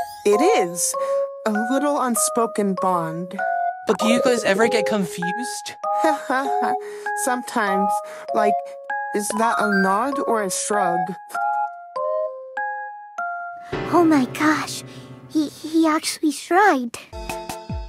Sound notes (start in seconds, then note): 6.0 laughs; 14.9 gasp